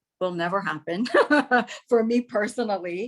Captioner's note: laughs